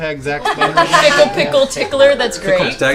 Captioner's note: laughter